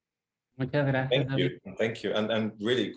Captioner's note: Adri speaks in foreign language